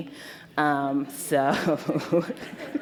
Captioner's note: laughter